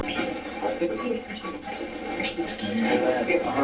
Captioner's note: static playback transmitting